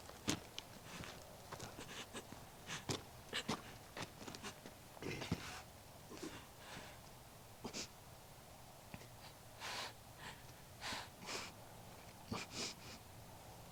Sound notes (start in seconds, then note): 1.8 Nellie sobs; 4.9 grunts; 10.1 Nellie breathes heavily